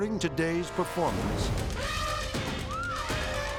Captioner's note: edgy dramatic music; elephant trumpeting; people screaming